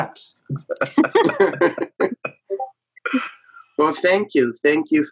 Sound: all giggling

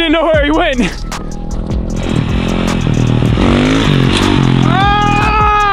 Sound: engine revving

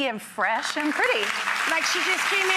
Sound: applause

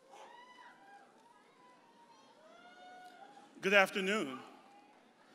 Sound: audience cheers and hollers

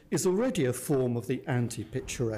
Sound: none

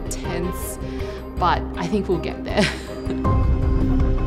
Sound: laughs

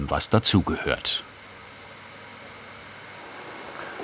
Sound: machine noise in the background

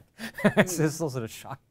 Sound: chuckles

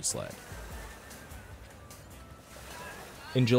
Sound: students talking

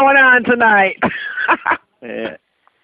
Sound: laughing

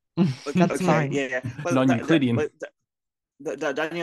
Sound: chuckles

